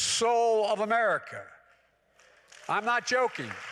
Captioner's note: applause